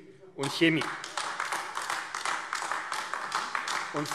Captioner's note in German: Beifall AfD